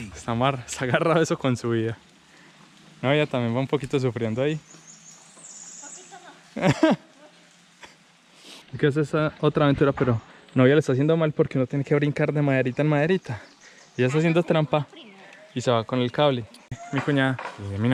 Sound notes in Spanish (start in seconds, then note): 0.7 risas; 6.9 resoplido